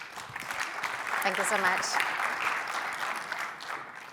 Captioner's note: applause